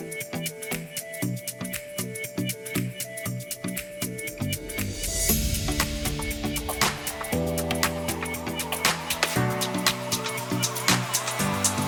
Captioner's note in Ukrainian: оплески